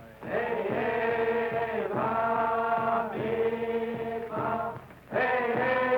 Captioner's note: captives chanting foreign language